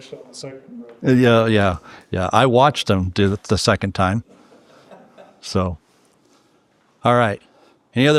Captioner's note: laughing